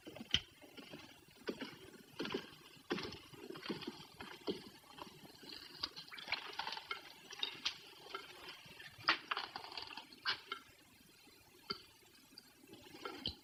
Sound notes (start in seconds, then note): 6.6 water dripping